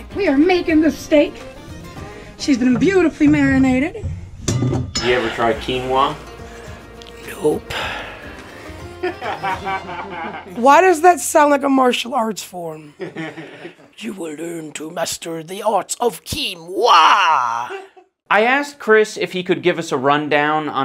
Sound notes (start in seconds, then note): 9.0 laughter; 13.0 chuckling